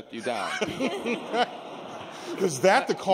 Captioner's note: laughter